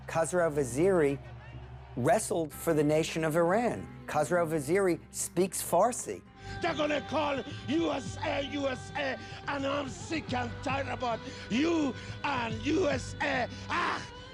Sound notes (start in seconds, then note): 6.6 Farsi spoken audio